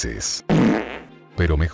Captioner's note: flatulence sound